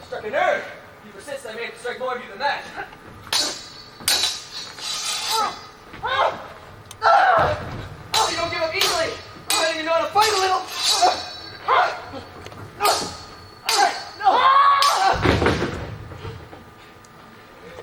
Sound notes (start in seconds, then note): 3.2 swords clash; 10.7 swords clash; 14.8 slams floor